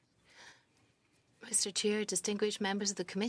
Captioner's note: speaking French